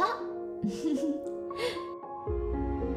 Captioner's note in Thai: เสียงหัวเราะ